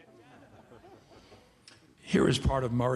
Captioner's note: audience laughing